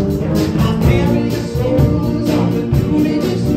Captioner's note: none